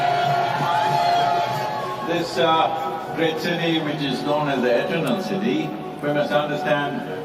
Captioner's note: cheering/Applause